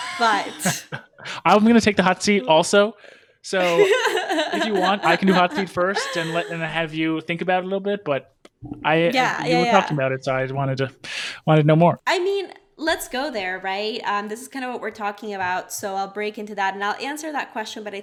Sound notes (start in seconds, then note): 0.0 laughs; 3.6 laughs